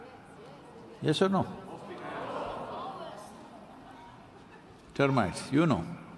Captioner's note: few laugh